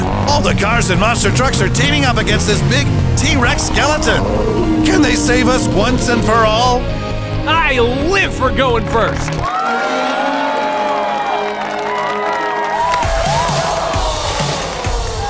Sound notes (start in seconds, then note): 9.3 crowd cheers; 12.0 intense music plays